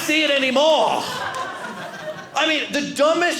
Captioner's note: audience laughing